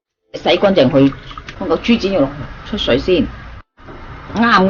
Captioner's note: boiling